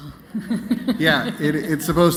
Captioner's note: laughter